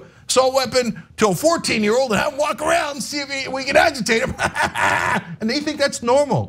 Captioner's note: laugh